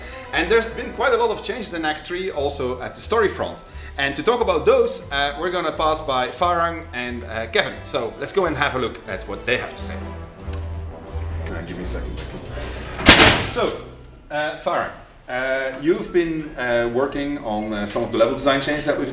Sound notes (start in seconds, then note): 13.0 bang